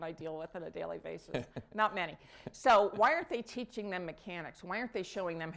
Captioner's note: laughter